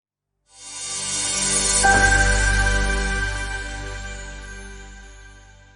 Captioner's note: electronic sound